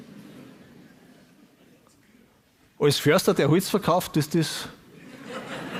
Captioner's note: audience laughs